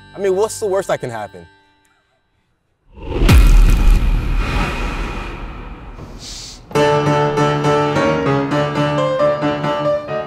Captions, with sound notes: I mean, what's the worst that can happen? (bars slamming) (daunting Broadway music)